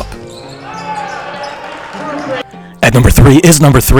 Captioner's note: crowd cheering